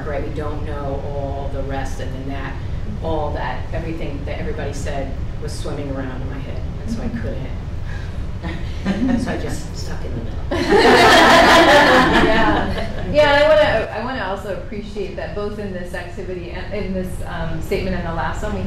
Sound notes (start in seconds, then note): 8.5 laughs; 10.6 laughing